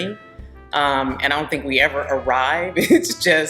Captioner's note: laughing